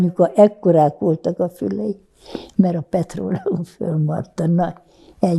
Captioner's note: laughing